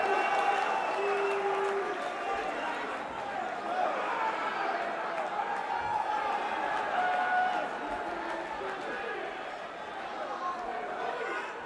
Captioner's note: crowd cheering